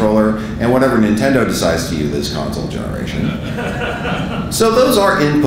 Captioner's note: audience laughing